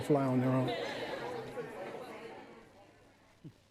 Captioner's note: group chatter